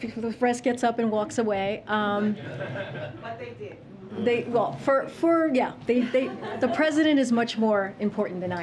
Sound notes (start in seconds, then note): 2.2 laughter